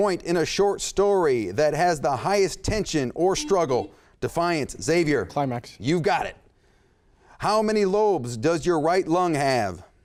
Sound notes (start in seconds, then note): 3.3 beep